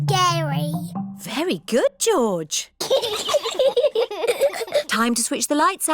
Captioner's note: both giggle